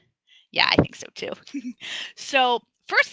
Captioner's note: laughs